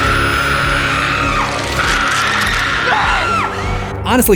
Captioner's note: screams